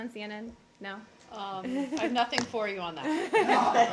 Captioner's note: laughter